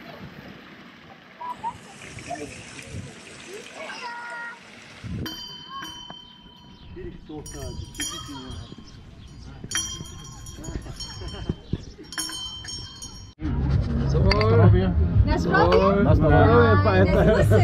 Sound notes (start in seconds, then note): 0.0 water sound; 5.2 bells